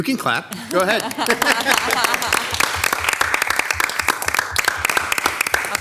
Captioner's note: everybody clapping